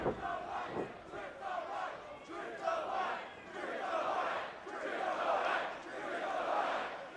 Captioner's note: fans chanting